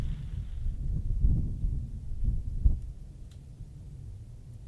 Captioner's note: wind blowing